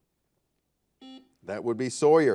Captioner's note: buzzer